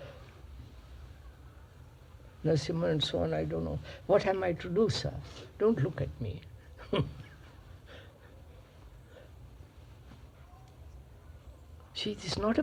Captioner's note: laughs